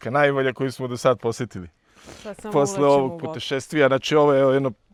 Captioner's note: snort